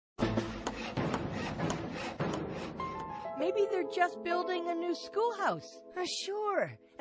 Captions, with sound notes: [sawing sounds] - MAYBE THEY'RE JUST BUILDING A NEW SCHOOLHOUSE. - SURE.